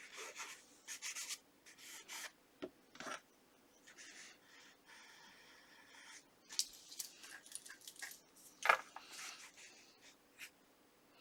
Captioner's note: pencil writing